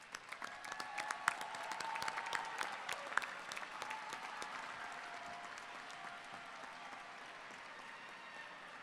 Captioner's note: applause